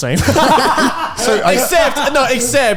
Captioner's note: all laughing